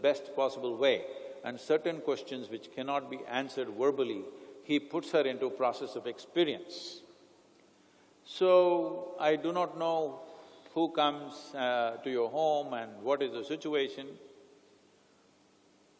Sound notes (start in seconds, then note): none